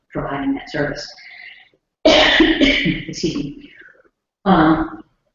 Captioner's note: cough